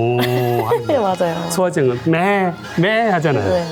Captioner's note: chuckling